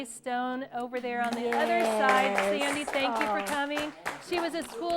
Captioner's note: applause